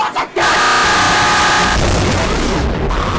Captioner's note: distorted screaming